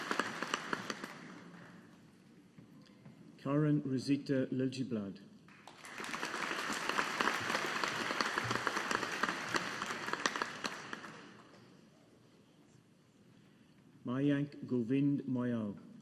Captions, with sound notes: Karin Rosita Liljeblad. (AUDIENCE APPLAUDING) Mayank Govind Moyal.